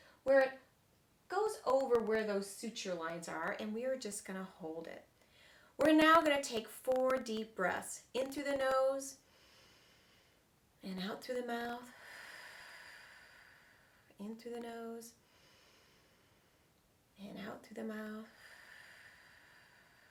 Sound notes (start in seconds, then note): 10.0 inhaling; 12.0 exhaling; 16.2 inhaling; 18.3 exhaling